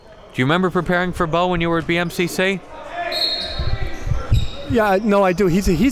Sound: whistle blows

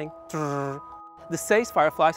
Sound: mouth buzzing

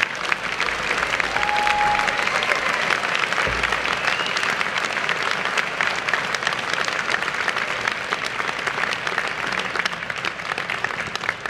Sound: applause

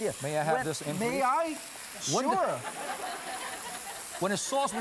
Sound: laughing

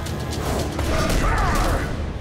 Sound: grunting

